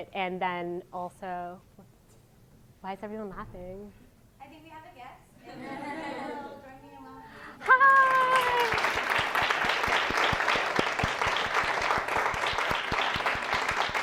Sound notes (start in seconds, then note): 7.6 applause